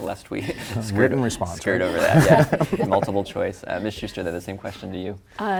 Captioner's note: laughter